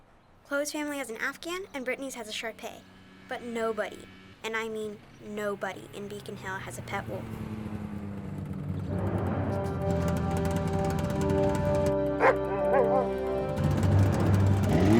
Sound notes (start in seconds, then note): 7.4 snowmobile whirring; 8.8 dramatic music; 12.2 Buck barking